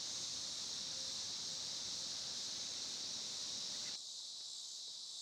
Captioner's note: crickets chirping